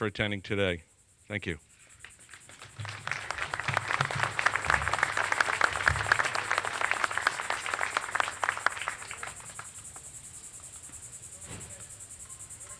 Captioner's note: applause